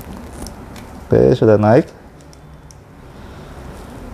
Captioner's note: rubber noise